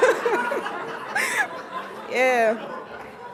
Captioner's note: laughs